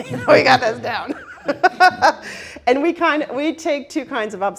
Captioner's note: all laughing